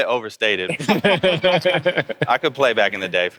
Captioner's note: laughing